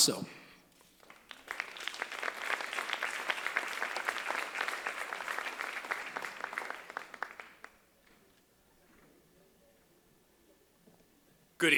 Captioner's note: applause